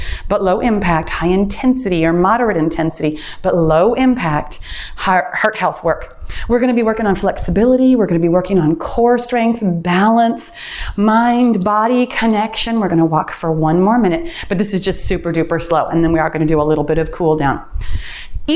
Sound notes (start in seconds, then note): 11.0 timer beeps